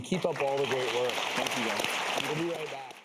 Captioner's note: audience applauds